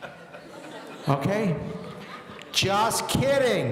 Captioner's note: audience laughing